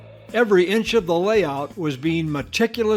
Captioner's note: voiceover